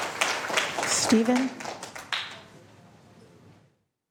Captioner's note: applause